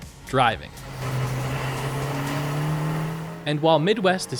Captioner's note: engine revving